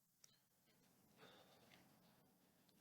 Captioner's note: sighs